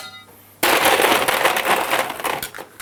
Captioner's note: clattering ice cubes